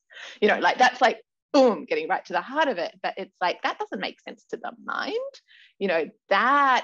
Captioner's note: none